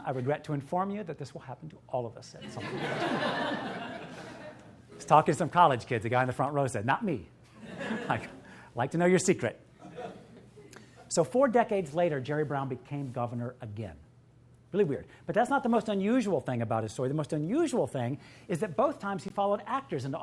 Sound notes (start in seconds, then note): 2.5 audience laughing